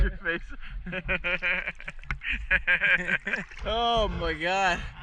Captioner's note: laughs